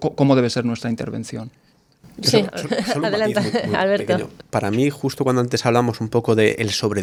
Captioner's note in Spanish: risas